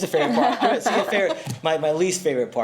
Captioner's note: everyone laughs